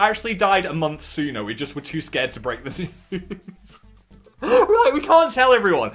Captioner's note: laughs